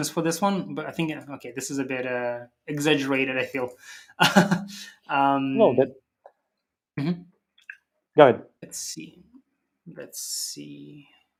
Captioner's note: laughs